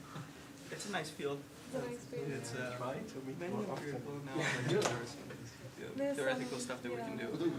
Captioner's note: indistinct conversation